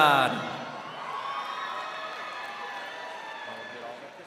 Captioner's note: crowd cheering